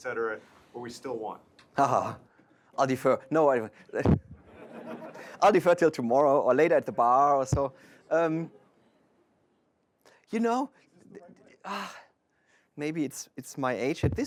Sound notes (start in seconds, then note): 4.0 laughter